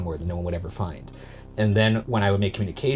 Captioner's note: none